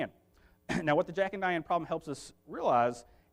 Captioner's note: clears throat